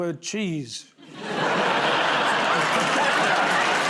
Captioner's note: laughter; applause